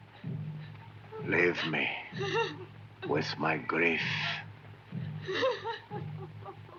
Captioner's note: White Cloud crying